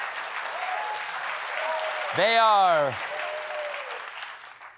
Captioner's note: applause